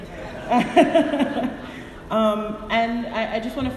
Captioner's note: audience laughing